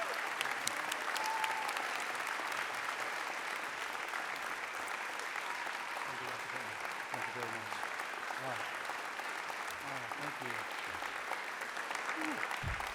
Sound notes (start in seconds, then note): 0.0 applause; 0.0 cheering